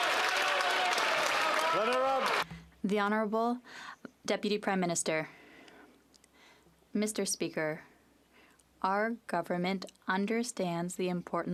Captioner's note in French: applaudissements